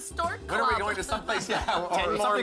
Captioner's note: laugh